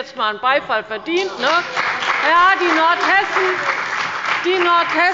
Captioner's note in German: Beifall bei der CDU und dem BÜNDNIS 90/DIE GRÜNEN